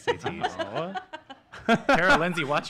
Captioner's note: laughs